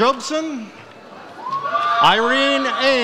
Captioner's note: audience cheers